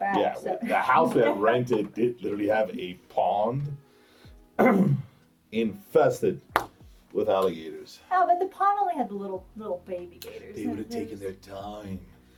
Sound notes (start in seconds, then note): 4.6 clears throat